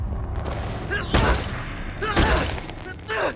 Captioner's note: Brax growls; punching; glass shatters